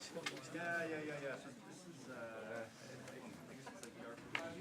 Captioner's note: chatter